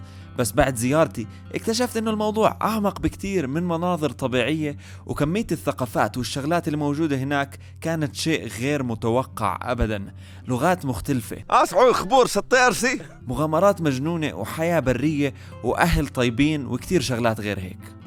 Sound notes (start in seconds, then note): 11.6 speaking foreign